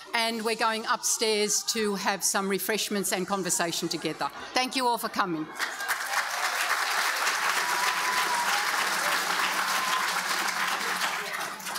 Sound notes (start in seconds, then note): 5.5 audience applauding; 5.5 audience cheering